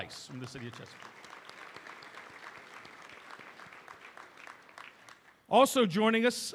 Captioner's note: applause